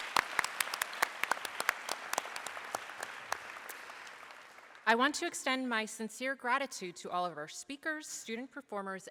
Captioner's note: applause